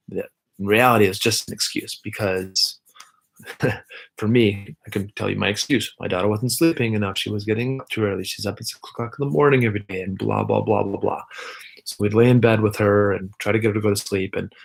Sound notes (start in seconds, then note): 3.4 laughs